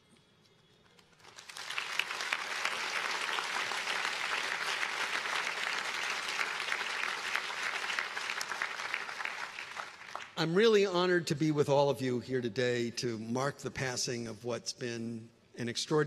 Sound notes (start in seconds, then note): 4.0 applause